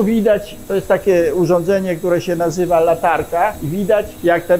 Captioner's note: speaks in Polish